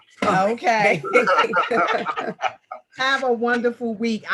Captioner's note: group laughing